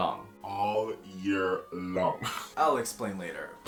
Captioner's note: giggles